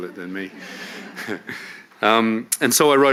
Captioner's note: audience laugh